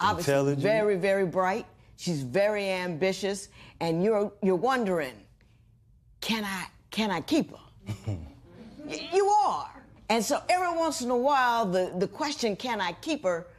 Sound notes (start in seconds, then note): 7.9 laughter; 7.9 chuckles